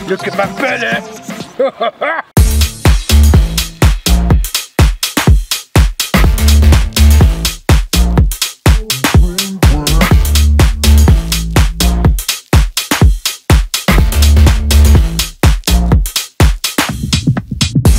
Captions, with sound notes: Look at my belly! (deep belly laugh) (techno music)